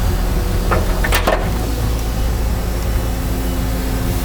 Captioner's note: metal clanging